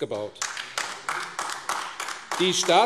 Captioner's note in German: Beifall AfD